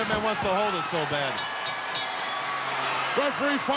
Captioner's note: bell dinging